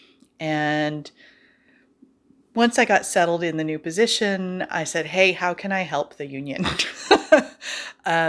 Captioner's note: haha